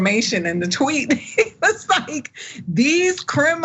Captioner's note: laugh